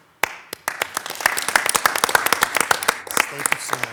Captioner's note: attendees applauding